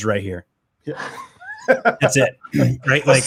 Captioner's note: laugh